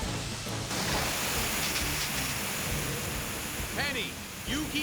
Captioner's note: water Spray Hissing